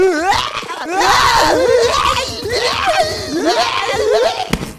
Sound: Nerd Book Screaming

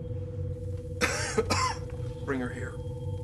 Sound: mccoy coughs

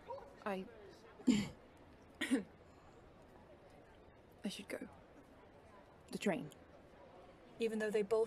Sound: he coughs

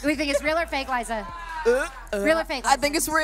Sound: imitating gagging

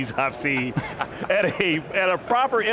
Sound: laughing

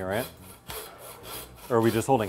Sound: saw cutting through bone

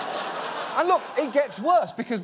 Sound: audience laughs

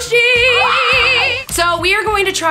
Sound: screams

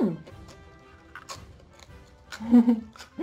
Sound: Crunch; soft laugh

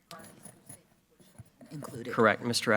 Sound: faintly speaking

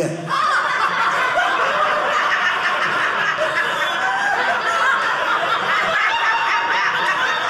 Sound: audience laughing

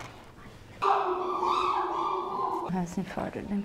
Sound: chimps vocalize in background

